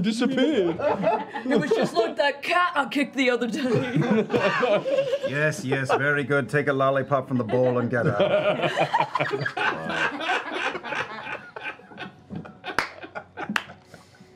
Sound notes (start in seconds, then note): 1.9 dopey guard voice; 5.0 disinterested voice; 7.3 laughter